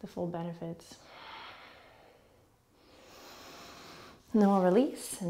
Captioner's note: deep breathing